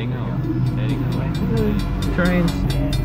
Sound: train crossing bell ringing

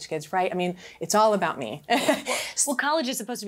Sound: chuckles

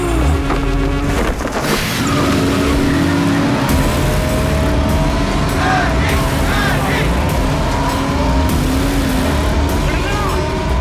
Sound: car Sound

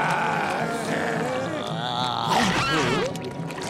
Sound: moaning

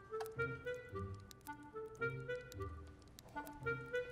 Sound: comical music; water dripping

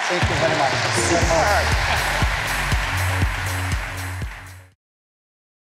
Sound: applause

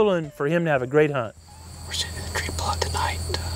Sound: whispering

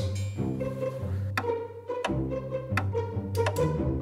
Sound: clock ticks

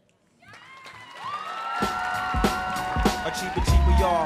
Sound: audience cheering

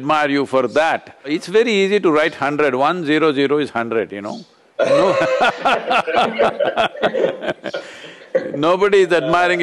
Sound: laughter

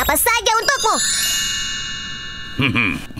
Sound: bells chime

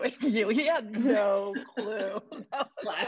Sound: laughter

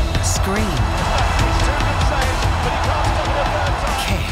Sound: announcer chattering; crowd cheering

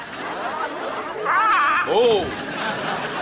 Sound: squawking

